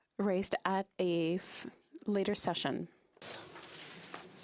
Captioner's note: speaking FRENCH